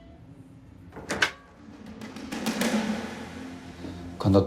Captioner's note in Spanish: Sonido al abrir la puerta